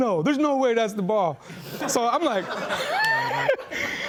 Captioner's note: laughing